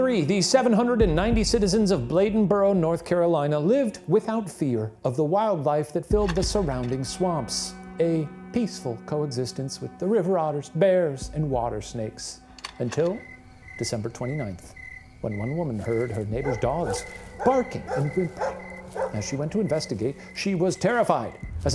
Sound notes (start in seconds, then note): 12.5 slide clicks